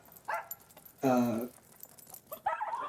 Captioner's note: dog barks